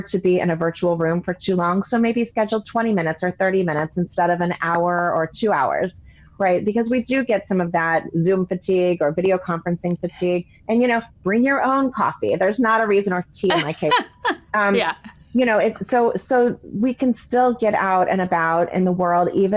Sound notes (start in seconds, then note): 13.5 laughing